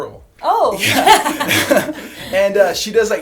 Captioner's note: laughter